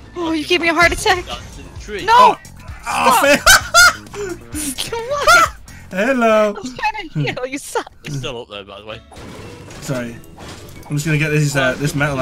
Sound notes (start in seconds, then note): 5.5 laughs